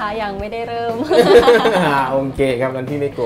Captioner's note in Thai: เสียงหัวเราะ